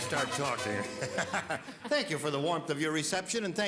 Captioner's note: laughs